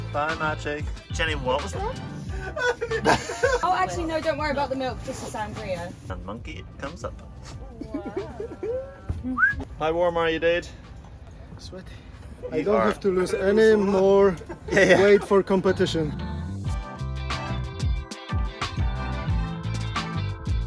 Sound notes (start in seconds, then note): 1.6 men laughing; 9.2 whistles; 16.3 upbeat hip-hop music continues